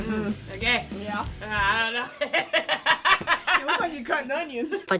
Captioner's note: both humming and grunting; laugh